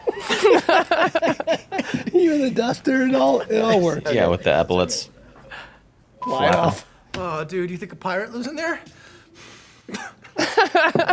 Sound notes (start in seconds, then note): 0.0 laughs; 2.5 group laughing; 9.8 group laughs